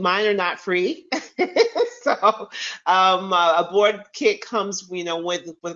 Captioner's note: chuckles